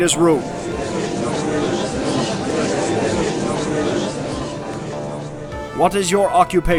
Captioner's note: gallery chattering